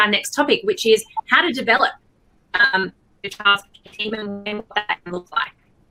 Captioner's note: audio glitches